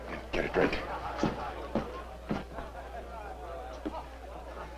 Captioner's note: guests chatting